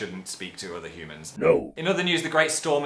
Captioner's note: deep voice